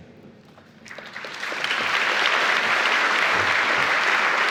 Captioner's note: applause